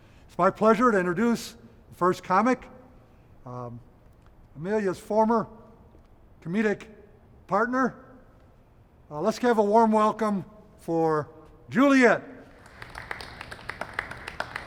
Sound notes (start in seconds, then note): 12.5 applause